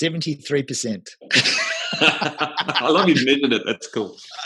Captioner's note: laughing